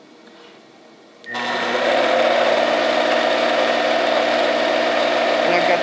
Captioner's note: machine whirring